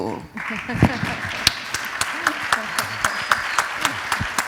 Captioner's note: applause